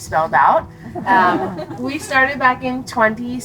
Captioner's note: crowd laughing